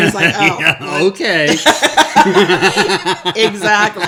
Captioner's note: laughing